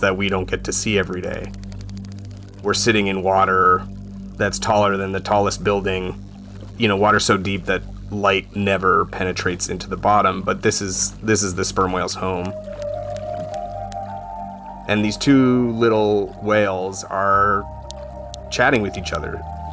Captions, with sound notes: that we don't get to see every day. (whale clicking) We're sitting in water that's taller than the tallest building. You know, water so deep that light never penetrates into the bottom, but this is the sperm whale's home. (gentle music) And these two little whales are chatting with each other.